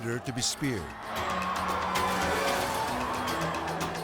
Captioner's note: people screaming; tense music